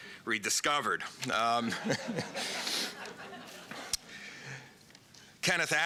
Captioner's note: laughter